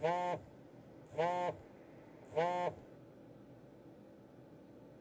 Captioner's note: phone vibrates